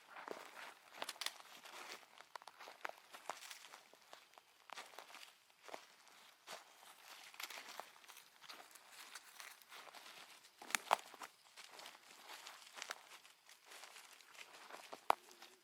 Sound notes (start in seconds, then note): 0.8 branches cracking; 10.9 branch breaks